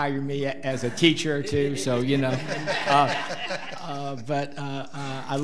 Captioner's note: audience laughing